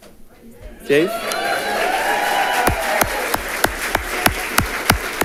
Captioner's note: audience applauding